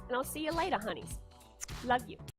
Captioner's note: blows kiss